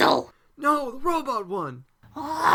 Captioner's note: shouting to her